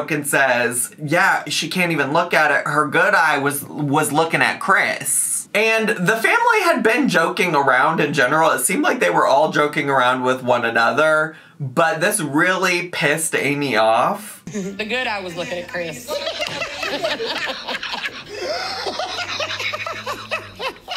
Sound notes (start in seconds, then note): 15.3 all laugh